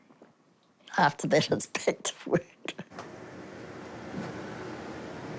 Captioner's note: laughs